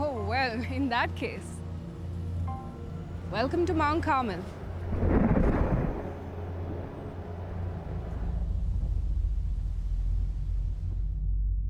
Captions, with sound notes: - Oh well, in that case, welcome to Mount Carmel. (thunder crashes) (suspenseful music)